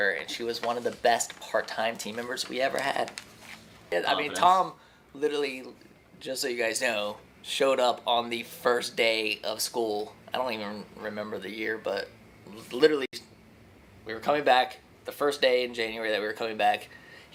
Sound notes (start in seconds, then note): none